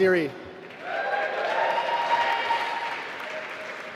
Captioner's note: applause